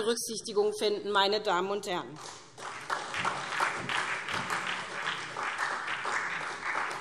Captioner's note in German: Beifall SPD und vereinzelt DIE LINKE